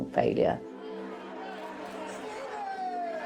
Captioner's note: crowd cheers